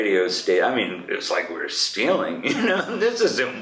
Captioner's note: laughs